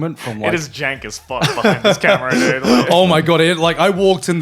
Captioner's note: laughs